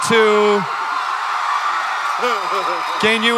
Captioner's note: audience cheering